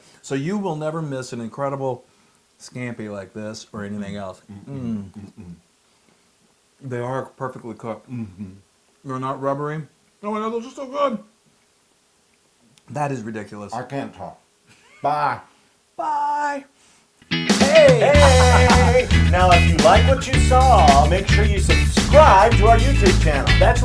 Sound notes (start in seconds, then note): 17.6 laugh